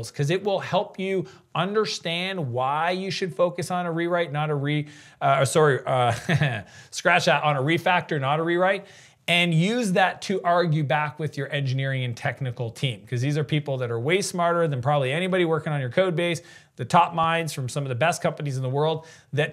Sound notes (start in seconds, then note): 6.0 chuckles